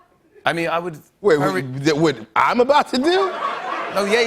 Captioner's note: laughter